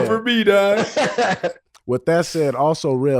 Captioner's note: Rel laughing